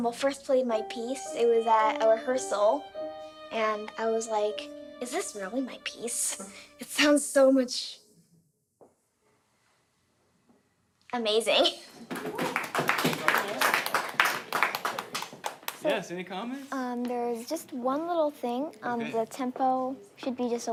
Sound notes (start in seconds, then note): 12.1 clapping